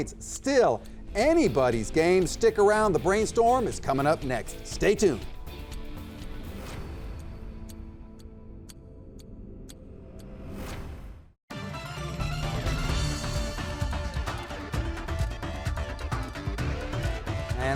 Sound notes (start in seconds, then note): 5.4 clock ticking; 11.5 upbeat music